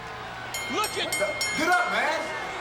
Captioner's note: bell chimes